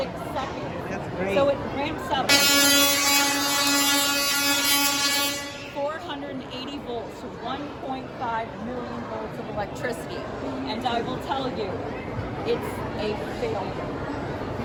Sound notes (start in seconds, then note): 2.3 loud electrical buzzing